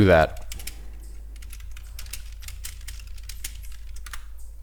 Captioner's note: keys typing